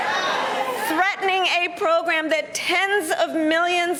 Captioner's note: laughter